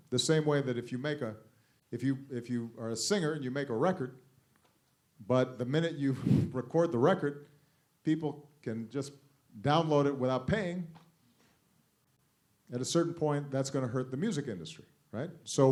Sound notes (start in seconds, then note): none